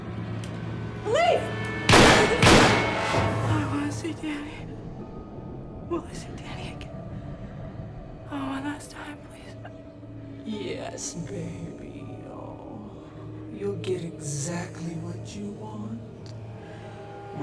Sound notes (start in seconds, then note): 1.9 gunfire pops